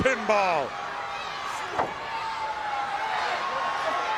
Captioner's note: crowd yelling